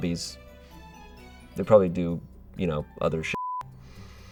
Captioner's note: beep